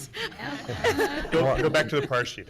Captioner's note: laughing